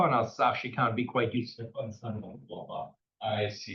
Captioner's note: speaking faintly